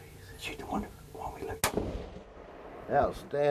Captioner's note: gun fires